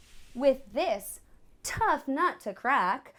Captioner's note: none